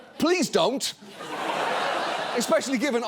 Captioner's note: audience laughs